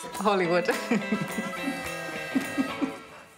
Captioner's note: laughs